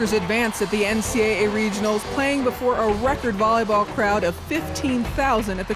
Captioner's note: crowd cheering